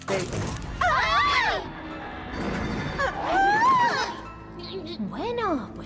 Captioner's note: girls shriek